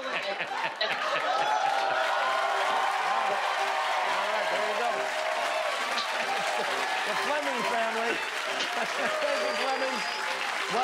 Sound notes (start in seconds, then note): 4.8 laughter; 8.6 applause